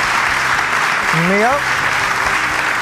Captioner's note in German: Applaus